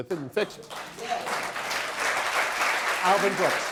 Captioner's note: audience applause